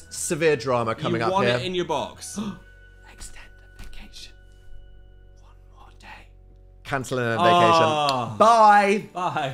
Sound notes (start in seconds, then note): 2.4 gasps